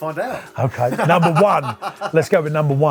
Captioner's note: laughing